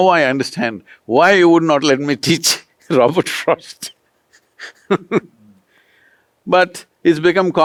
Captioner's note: laughs